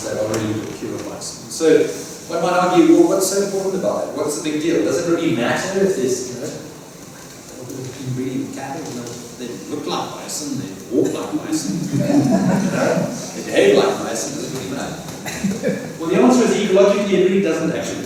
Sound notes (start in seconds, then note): 11.8 laughter